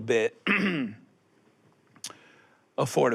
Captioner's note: clears throat